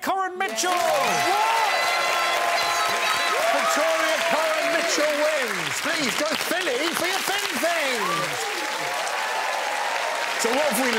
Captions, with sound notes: this episode was won by Victoria Coren Mitchell! [audience cheering] Victoria Coren Mitchell wins. Please go silly for your thin things!